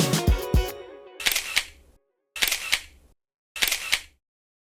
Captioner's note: camera snapping